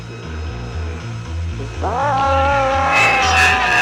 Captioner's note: growling